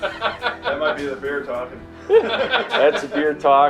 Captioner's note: laughter